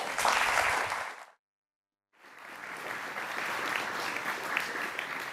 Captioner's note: applause